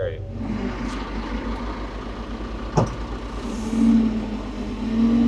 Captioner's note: telehandler whirring